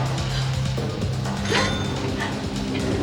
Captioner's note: gasps; elevator dings